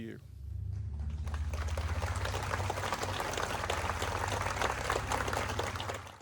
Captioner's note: applause